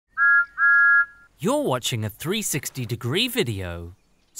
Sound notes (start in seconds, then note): 0.1 whistles